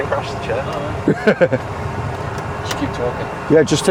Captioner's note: laughing